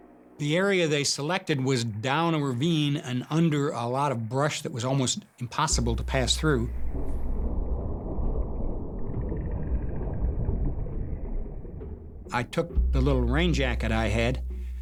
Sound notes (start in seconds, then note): 5.7 thunder rumbling